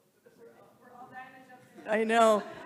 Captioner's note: speaking faintly